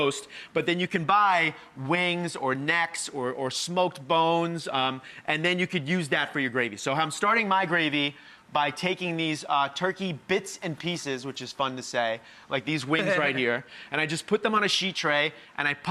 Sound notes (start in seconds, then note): 13.0 laughs